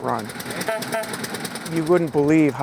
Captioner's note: car engine rumbling; car horn tooting